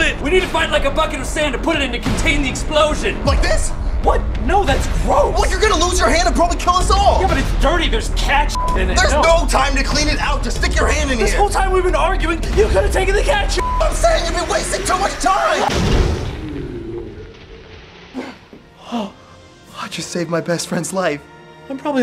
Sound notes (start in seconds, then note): 14.4 explosion; 18.7 sigh of relief